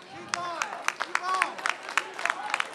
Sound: applause

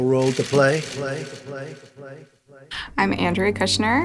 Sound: echoing

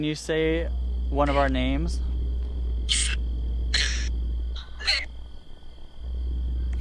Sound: Necrophonic app screeching

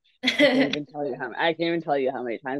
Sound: laughs

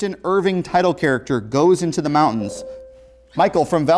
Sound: buzzer

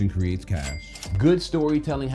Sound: cash register rings

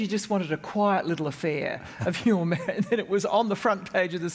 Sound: laugh

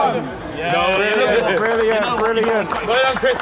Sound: clapping

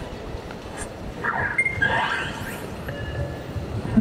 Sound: pokemon go sound effects

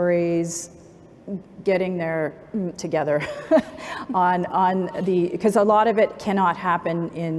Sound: laughs

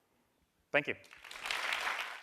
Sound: applause

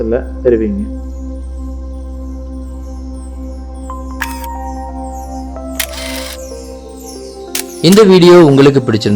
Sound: sound of Camera snap

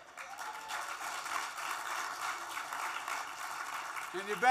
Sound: applause

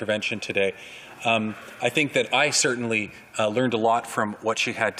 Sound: voix de l'interprète

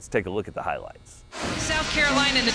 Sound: air whooshing

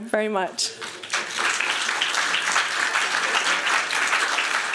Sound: applause

